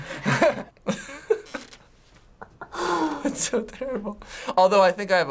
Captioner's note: laughing